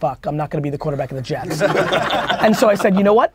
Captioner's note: group laughter